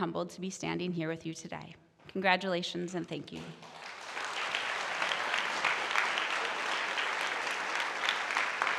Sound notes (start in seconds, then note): 3.6 audience applauding